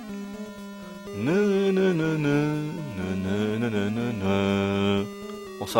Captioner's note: hums the tune